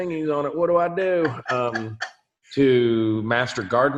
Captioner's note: laughs